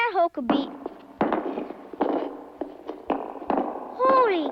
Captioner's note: rock falling